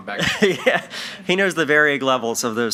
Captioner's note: chuckles